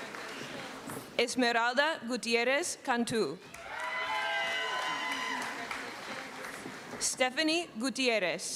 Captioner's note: screaming